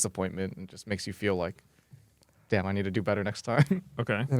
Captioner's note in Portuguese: risos